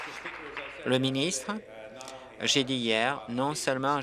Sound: applause

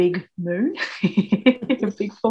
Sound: laughs

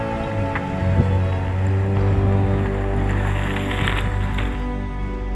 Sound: bikes rustling

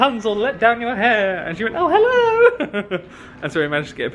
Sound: laughs

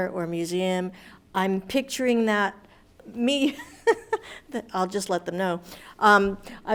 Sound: laughs

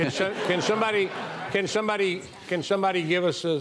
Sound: audience laughing

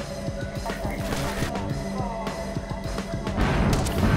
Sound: fire crackling; explosions

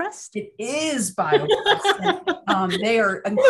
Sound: laughing

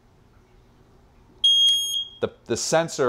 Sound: beeping

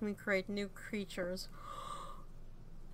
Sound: gasp

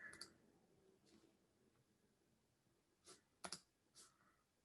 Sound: computer keyboard clicking

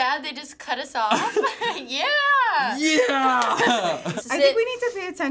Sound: laughing

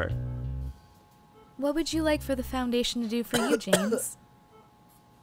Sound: cough cough

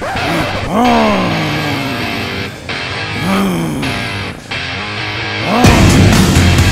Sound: growling; rock music plays

